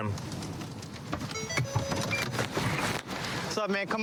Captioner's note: car notification bell dings